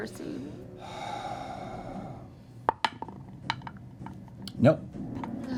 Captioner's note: sighs